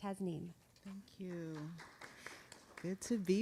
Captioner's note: audience applauding